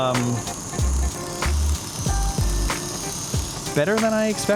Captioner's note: camera whirring